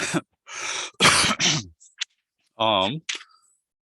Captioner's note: clears throat; coughs